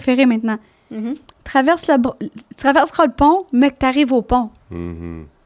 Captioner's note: in french